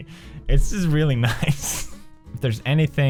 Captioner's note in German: lacht